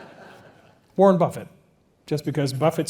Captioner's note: laugh